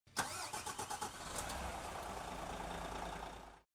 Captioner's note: engine starting